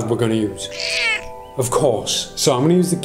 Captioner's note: cat miaows